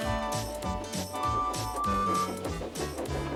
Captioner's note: hooting